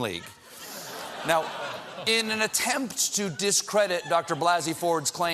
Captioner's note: laughter